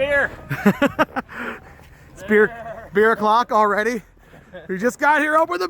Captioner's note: laughing